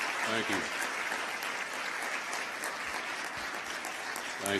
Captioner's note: applause